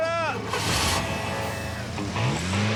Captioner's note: engine revs